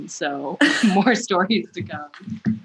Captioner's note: laughter